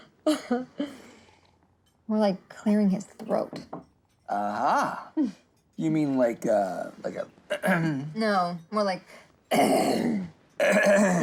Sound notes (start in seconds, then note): 9.1 deep raspy grunt; 10.4 scratchy grunt